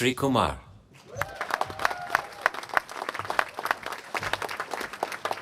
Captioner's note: applause